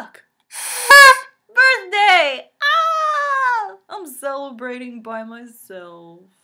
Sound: blows party horn - trumpet sound

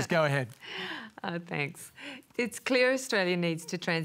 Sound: laughs

